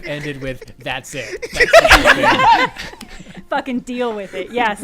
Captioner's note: laughter